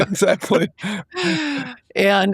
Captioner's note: laughing